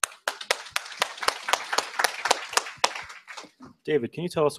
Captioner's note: scattered applause